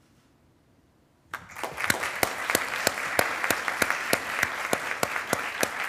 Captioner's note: attendees applauding